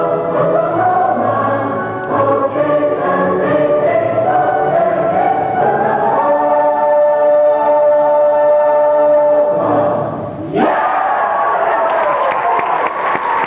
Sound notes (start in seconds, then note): 10.5 cheering; 11.7 applause